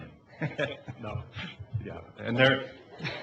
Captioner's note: laughing